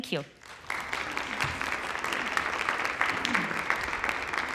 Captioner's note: applause